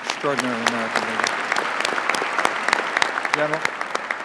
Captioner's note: applause